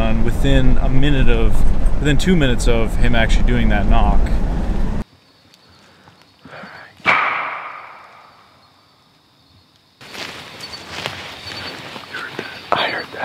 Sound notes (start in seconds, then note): 7.2 wood knocking